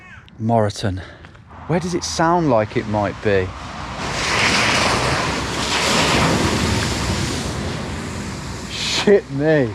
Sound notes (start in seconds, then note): 3.9 car whirring; 5.7 water splashing